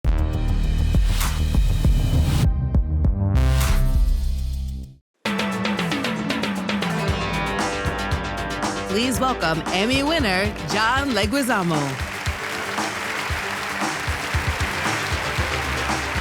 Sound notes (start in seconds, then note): 0.0 audio logo; 5.0 upbeat music; 10.6 applause